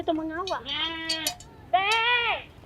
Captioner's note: animal sound